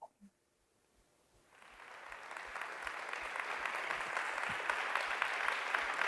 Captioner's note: Aplausos